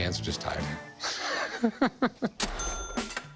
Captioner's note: laughs